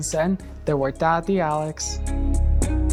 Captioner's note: speaking in Spanish; light upbeat music